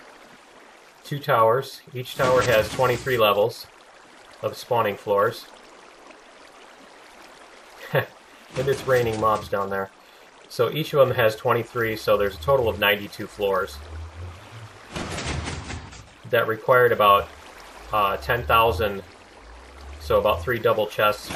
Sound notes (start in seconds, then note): 7.8 laughs; 14.8 pistons shifting